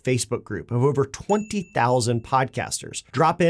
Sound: bell dings

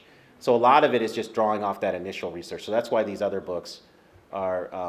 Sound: none

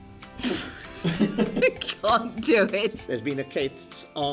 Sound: laughter

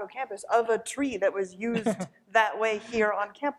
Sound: chuckles

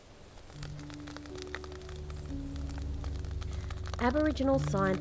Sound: fire crackling

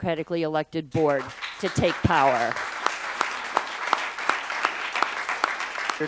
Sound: applause

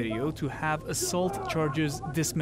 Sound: yelling

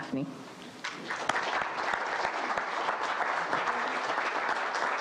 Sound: audience applauding

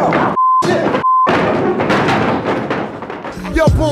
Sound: chairs thudding

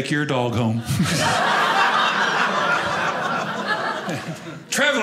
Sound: audience laughing

